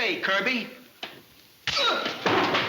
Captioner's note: blow cracking; man shouts